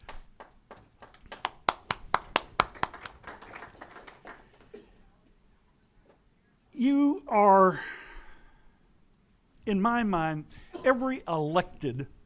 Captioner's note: applause